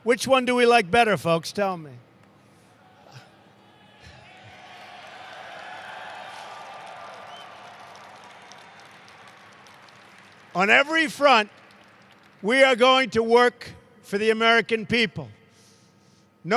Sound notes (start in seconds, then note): 2.2 applause